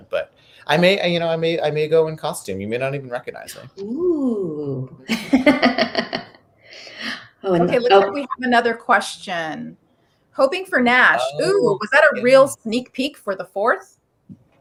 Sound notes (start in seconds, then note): 7.6 laughing